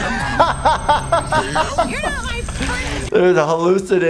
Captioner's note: laughing; mechanical ringing